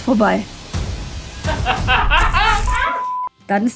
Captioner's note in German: Lachen und Einblendung "Kurze Störung"